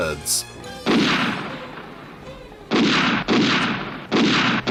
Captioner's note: multiple gun shots